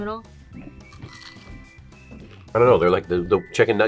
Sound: hush puppy crunches

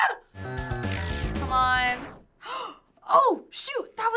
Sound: gasping

